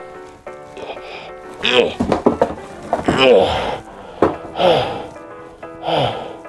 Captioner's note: grunting, panting